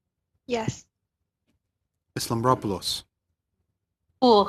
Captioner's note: speaking French